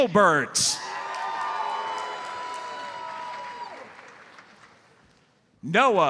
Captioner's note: audience cheers and applauds